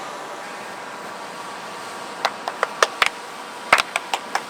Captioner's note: arrhythmic clapping